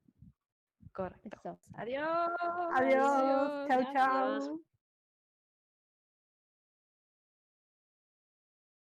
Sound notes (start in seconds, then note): 1.4 bye in Spanish